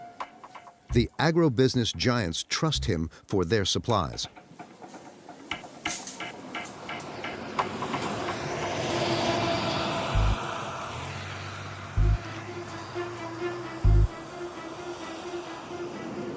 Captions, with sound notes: The agribusiness giants trust him for their supplies. (truck engine roaring) (dramatic music)